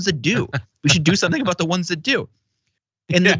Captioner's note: laugh